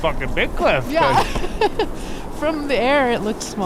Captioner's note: laughs